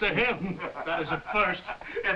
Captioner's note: Jakob laughing